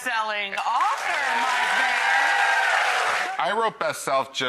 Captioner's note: audience applauds